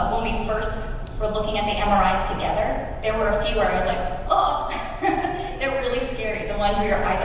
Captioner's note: laughs